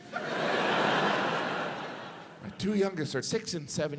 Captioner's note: audience laughs